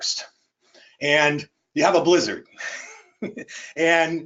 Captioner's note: laughs